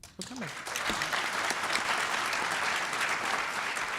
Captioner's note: audience applauds